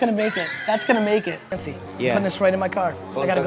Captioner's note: laughter